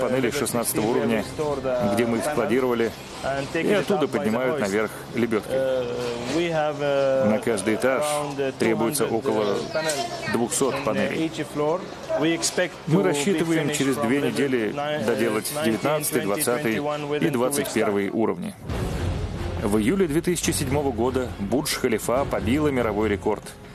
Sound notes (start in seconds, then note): 18.6 voiceover